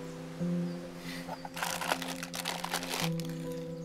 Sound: wrapper crinkling

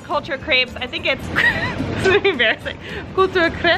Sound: laughs

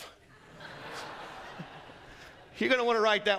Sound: congregation laughing

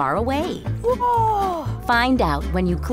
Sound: child voice

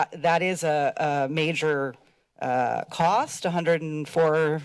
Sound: none

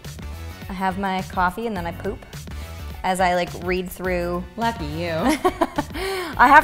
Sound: laughs

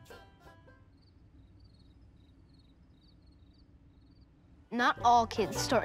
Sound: crickets

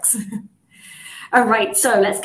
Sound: chuckles

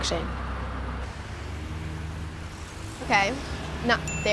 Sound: ding

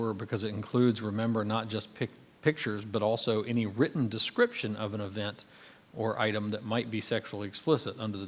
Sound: none

